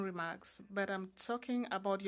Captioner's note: speaking French